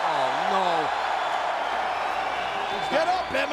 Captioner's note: applause